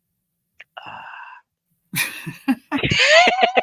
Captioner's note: all laughing